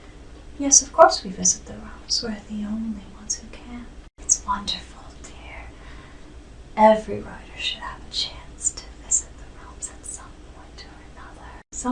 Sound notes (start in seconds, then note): none